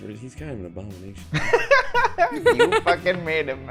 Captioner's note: laughter